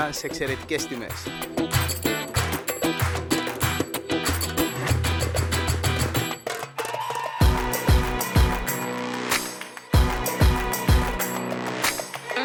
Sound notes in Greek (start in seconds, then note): 4.8 χειροκρότημα